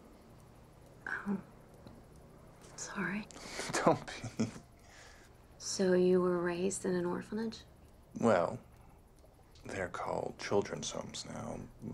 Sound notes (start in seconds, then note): 4.0 laughs